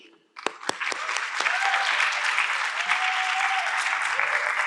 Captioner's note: audience clapping